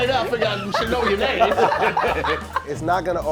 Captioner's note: laughing